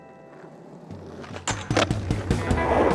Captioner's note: skateboard rolling